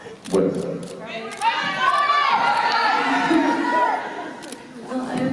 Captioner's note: fans shouting out suggestions